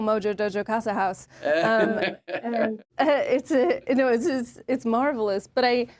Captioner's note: James laughs